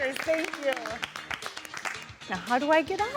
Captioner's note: all clapping